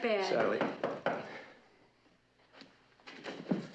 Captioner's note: Kapıyı çalıyor